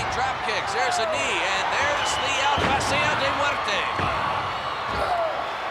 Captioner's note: speaking Spanish; wrestlers grunting